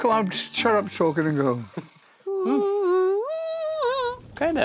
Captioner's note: hums